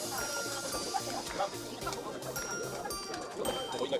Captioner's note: laughs